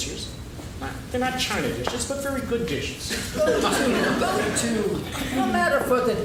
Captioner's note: laughing